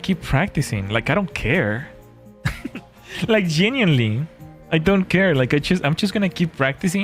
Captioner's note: laughter